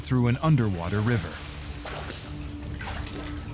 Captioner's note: sloshing and splashing